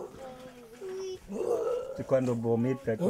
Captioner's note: speaking foreign language